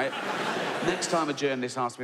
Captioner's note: audience laughs